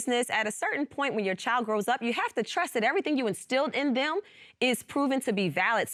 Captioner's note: none